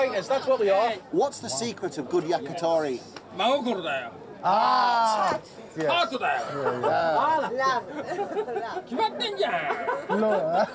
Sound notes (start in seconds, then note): 4.1 speaking Japanese